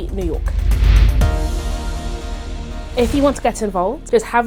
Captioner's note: impacting music; air whooshing